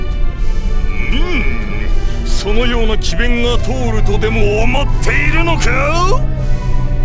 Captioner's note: bemused bull-detecting grunt